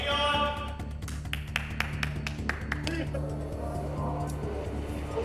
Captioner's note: clapping